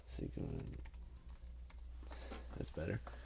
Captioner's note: typing